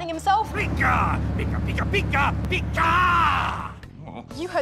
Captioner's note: gruff, manly voice